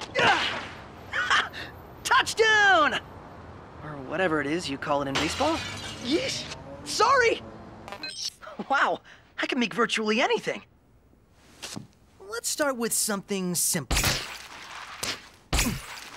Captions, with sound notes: [GRUNTS] Ha, touchdown. Or whatever it is you call it in baseball. [GLASS SHATTERS] Yeesh, sorry. Wow, I can make virtually anything. Let's start with something simple. [WEBS SQUEAKING]